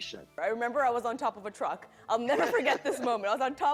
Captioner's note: laughs